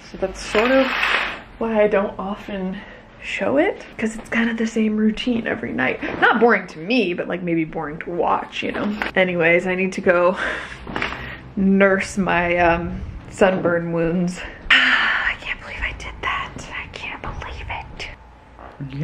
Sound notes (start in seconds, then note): 14.8 whisper